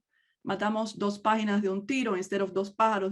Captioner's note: speaks in native language